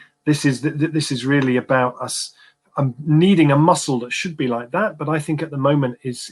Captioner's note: erm